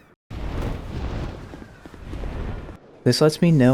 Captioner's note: bird wings flapping